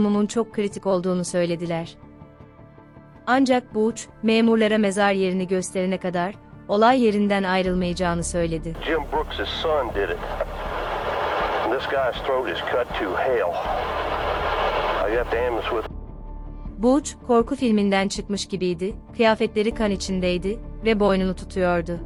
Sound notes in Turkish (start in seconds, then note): 12.4 Telsiz Sesi